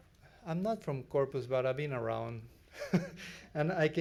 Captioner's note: laughs